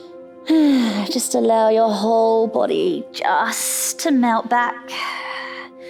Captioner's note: sighs